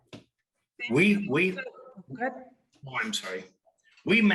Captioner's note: speaking faintly